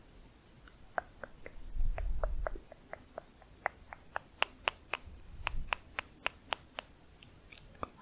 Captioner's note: tongue clicking